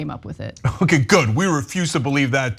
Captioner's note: laugh